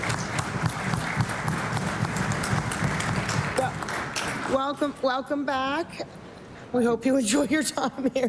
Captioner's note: applause